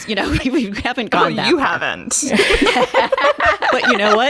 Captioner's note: laughter